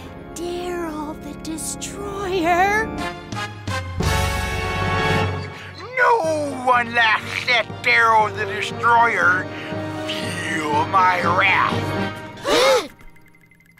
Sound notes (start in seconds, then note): 0.1 quavering; 2.8 ominous; 5.3 lisping; 12.4 gasping